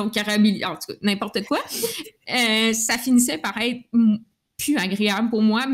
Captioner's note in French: Rires